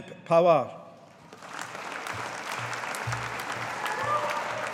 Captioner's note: audience applauding